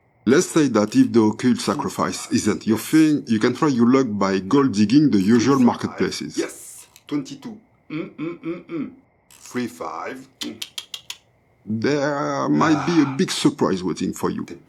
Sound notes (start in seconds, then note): 0.0 tsss!; 8.0 hum, hum, hum, hum!